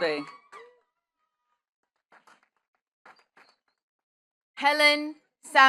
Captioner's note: attendees cheering and clapping